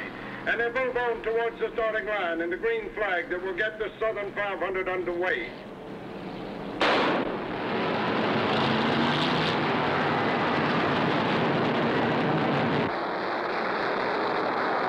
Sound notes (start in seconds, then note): 6.8 gun firing; 8.0 engines rumbling